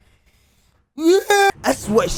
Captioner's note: groans